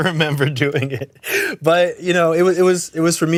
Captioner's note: laughs